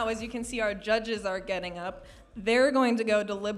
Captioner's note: none